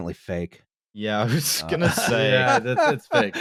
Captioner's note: laughs